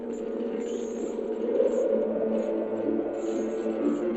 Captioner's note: wind howling; soft dramatic music